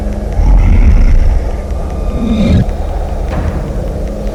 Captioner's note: bear grunts